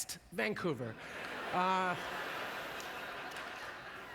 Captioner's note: audience laughter